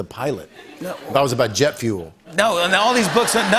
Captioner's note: laughter